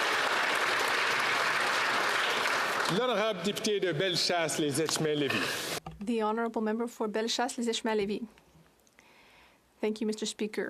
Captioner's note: applause